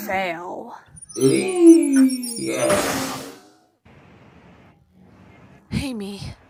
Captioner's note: Robonyan F groans dizzily